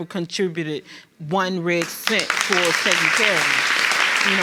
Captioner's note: audience applauds